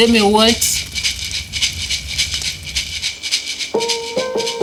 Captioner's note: rattle